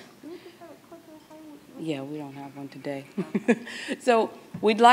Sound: laughs

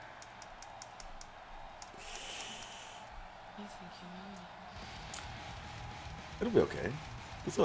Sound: applause

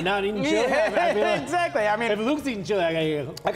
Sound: laughing

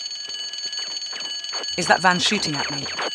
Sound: lourd alarm ♫; pew pew pew

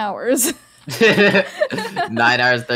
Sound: laughs

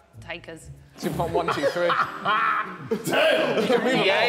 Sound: Sidemen laughing

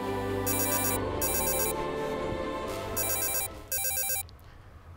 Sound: phone ringing

